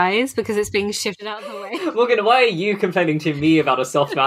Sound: laughs

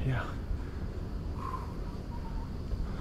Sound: exhale noise

